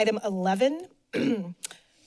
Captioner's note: clears throat